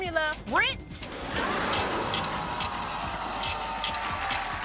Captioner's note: scratching